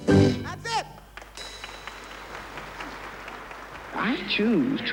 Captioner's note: audience applauds